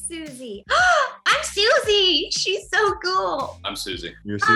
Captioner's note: gasp